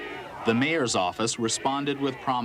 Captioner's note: voiceover